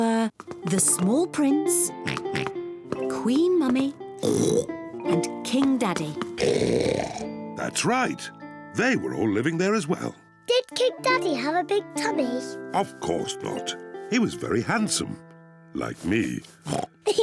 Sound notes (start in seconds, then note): 2.0 oinks; 6.3 oinks loudly; 16.6 oinks; 17.0 peppa and george giggle